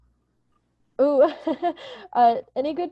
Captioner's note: chuckles